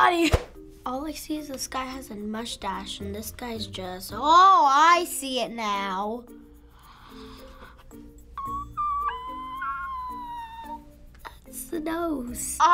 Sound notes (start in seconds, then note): 6.7 gasping; 8.4 shrieking shrilly